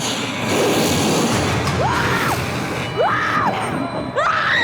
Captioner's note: growls; screaming